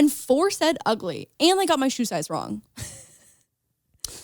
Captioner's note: laughs